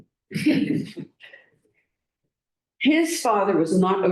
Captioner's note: laughter